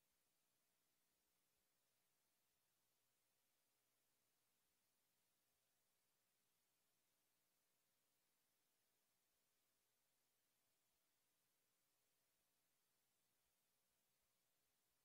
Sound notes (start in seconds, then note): none